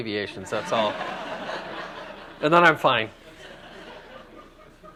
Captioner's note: laughter